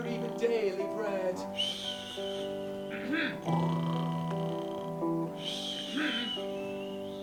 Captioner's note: gentle snoring; quiet coughing